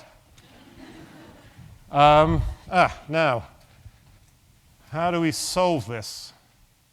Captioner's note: laugh